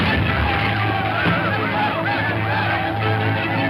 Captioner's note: bomb exploding; people screaming